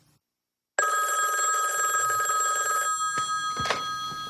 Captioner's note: phone ringing